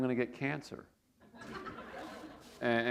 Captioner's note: laughter